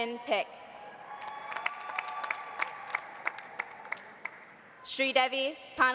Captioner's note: audience cheering; audience applauding